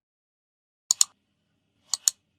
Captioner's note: click